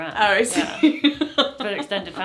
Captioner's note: she laughs